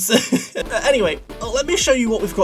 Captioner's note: laughs